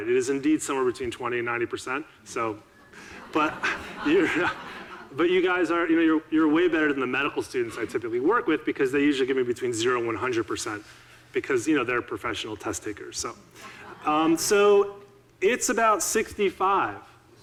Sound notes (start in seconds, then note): 2.8 audiences laughing